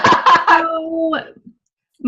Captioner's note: laughing